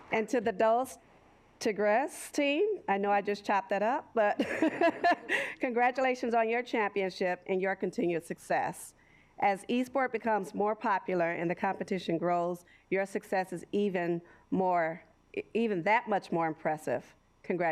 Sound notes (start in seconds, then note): 4.4 laughs